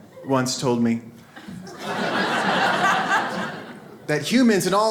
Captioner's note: audience laughs